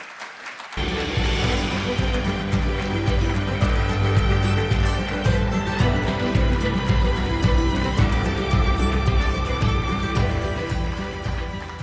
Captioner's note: applause